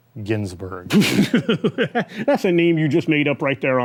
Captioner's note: laughing